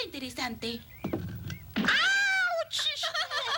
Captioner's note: exclaims